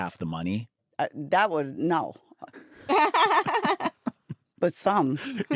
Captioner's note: laughs